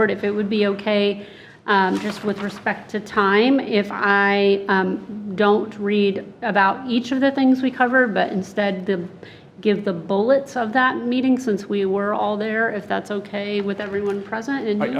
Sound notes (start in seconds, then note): none